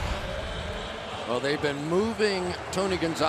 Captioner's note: pa announcement